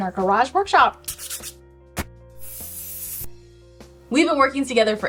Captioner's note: sandpaper scratches